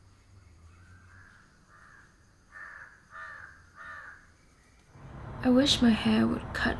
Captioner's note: birds chirping